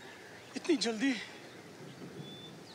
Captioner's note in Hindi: none